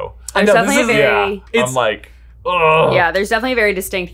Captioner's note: exclaims